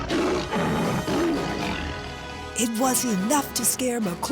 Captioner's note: roaring